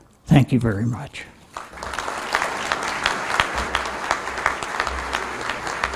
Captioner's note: applause